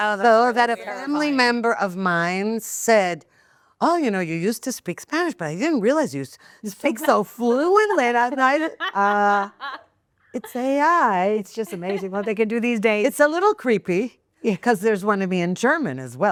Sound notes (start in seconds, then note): 9.0 laughing